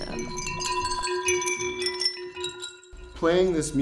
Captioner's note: rattling